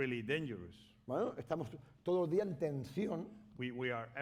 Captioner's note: speaking spanish